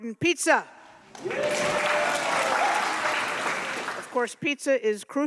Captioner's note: audience cheering